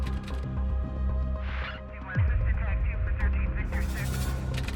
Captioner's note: dispatch radio